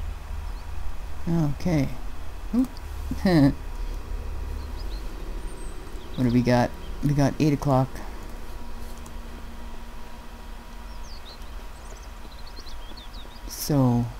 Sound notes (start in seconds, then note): 3.1 laughs